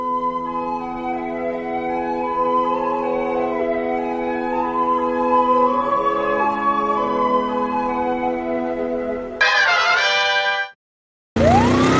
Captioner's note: applause